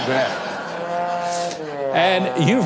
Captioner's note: honking